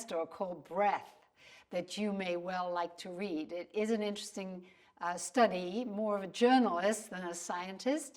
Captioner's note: breath